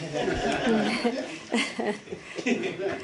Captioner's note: laughter